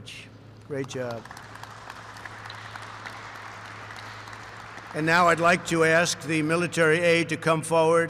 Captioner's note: applause